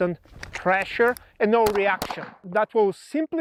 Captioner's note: gun popping